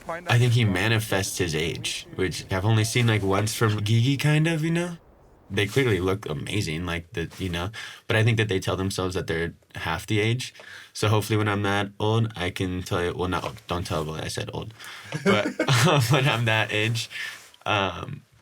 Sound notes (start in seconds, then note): 14.8 laughing